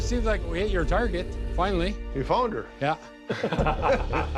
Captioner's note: chuckles